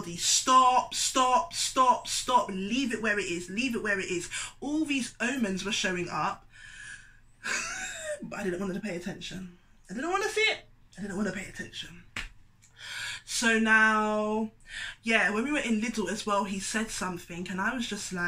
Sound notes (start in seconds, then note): 6.4 exhales; 12.0 clicks